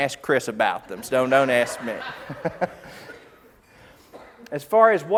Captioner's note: laughs